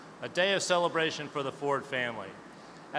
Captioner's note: none